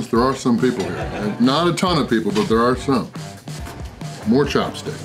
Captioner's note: laughter